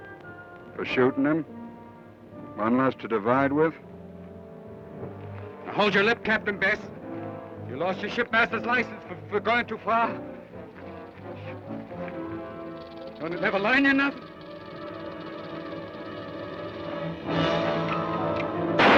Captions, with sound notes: - For shootin' him? One less to divide with? - Now, hold your lip, Captain Bess! You lost your shipmaster's license for going too far! (snake rattles) Don't it never learn you nothin'? (snake rattles) (dramatic orchestral music)